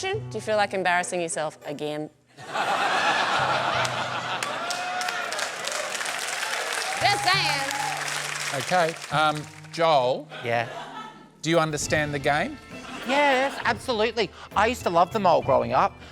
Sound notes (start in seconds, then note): 2.4 laughter; 4.3 applause